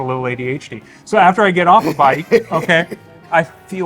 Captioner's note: laughing